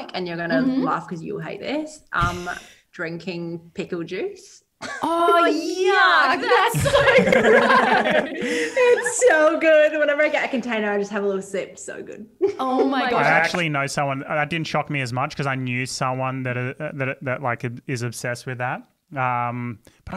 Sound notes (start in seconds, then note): 6.4 all laugh